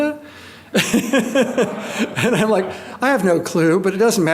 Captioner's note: laughs